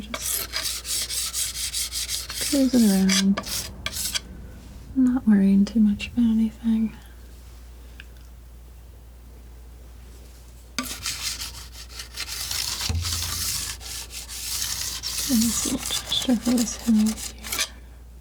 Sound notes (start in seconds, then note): 0.0 scratching; 10.8 scratching